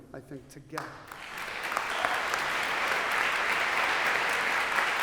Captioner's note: applause